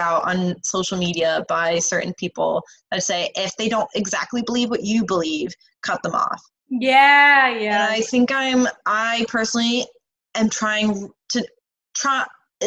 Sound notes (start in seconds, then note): none